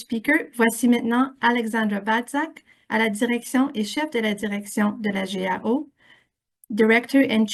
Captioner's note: French